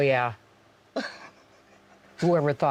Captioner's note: laughing